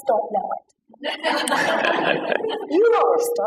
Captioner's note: laughter